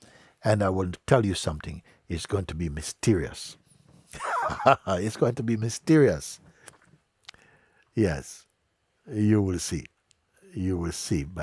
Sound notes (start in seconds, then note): 4.1 Mooji lacht